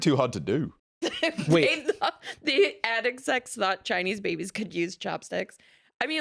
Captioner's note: laughs